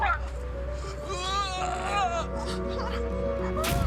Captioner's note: moans